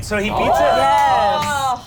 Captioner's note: cheer